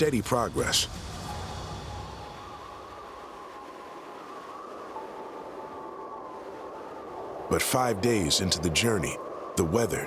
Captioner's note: wind howling